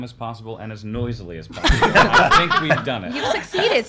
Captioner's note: laughs